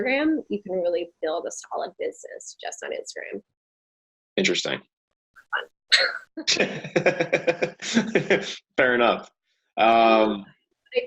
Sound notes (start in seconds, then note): 6.4 both laughing; 6.5 audio distorting